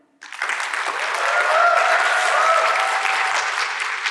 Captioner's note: audience laughing